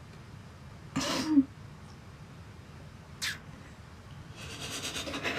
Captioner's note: Billy sniffling